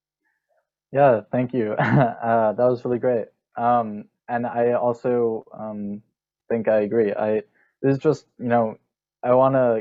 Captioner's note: soft laughter